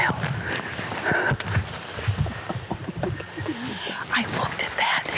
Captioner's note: ladies gasp and laugh